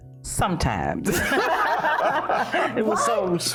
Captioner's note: laughing